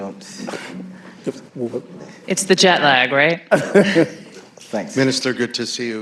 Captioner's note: laughter